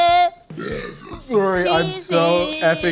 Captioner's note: Belch